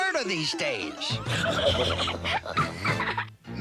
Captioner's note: both laughing